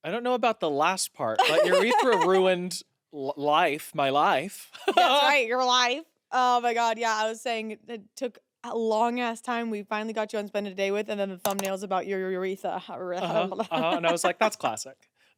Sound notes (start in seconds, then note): 4.5 laughs